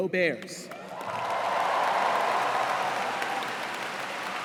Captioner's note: cheers and applause